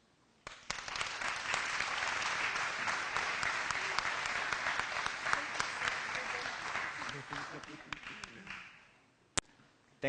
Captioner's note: applause